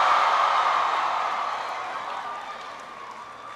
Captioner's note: applause